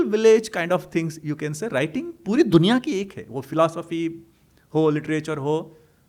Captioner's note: hindi